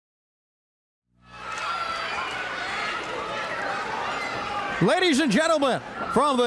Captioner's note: crowd cheering